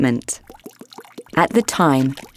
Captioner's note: ointment glugging